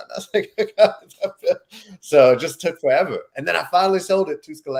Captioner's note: chuckles